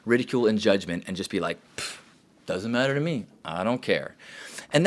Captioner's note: scoffs